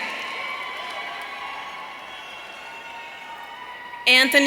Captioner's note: audience cheering